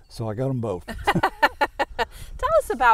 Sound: laughing

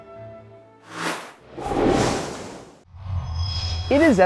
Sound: sound Effects

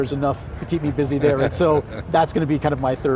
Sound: laughing

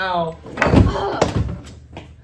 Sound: Riley groans

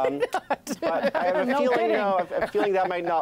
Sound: laughter

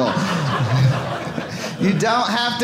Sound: audience laughing

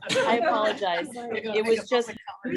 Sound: laughter

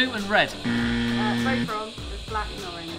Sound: incorrect buzzer

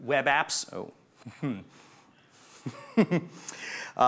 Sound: chuckles

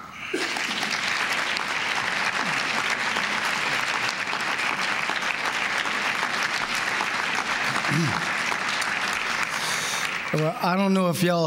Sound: applause

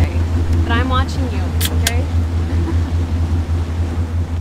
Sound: can clicks open

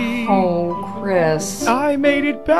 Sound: sympathetically

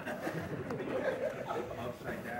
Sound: laughter

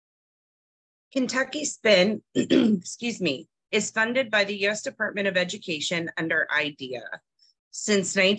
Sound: clearing throat

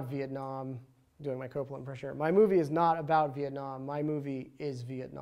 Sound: doing Coppola impersonation

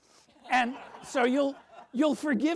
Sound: audience laughs

